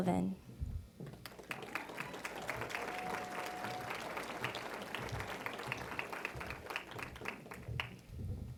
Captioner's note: applause